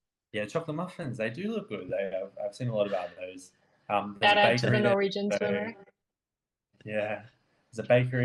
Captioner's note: overlapping chatter